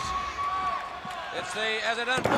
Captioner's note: crowd cheering